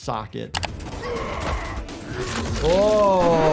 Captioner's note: characters yelling